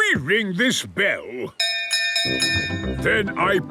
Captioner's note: bell chimes